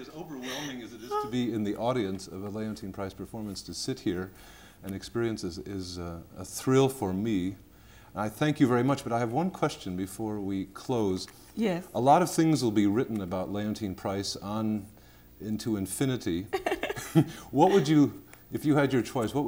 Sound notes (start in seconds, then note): 2.3 faintly speaking; 16.5 laughter